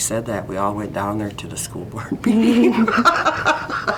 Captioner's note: both laugh